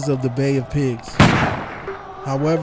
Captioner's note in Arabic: أصوات البنادق